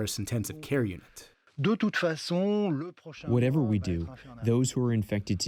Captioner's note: through translator